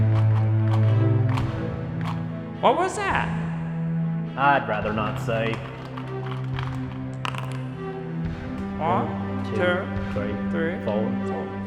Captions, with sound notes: What was that? I'd rather not say. [DICE ROLLING] [muttering counting]